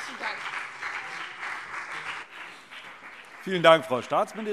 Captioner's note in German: Beifall CDU und BÜNDNIS 90/DIE GRÜNEN